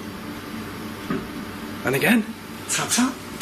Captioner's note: thump